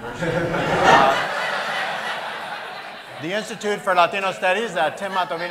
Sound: laughter

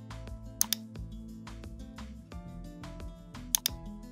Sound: mouse clicks

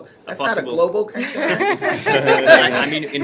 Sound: laughter

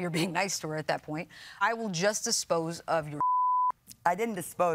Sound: beeps

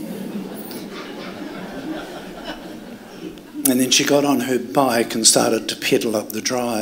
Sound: laughter

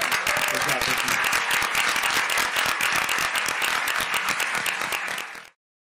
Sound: audience clapping

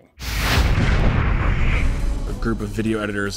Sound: explosion

